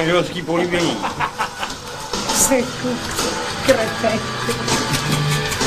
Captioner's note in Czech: zlověstný smích